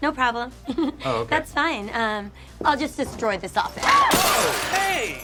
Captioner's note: giggles